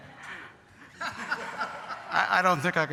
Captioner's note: laughter